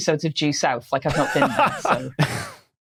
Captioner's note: laughs; snickers